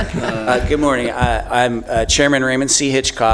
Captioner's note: laughter